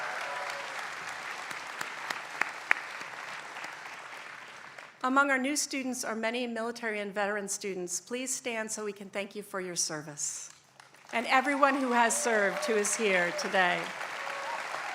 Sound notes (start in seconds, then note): 0.0 applause; 10.7 applause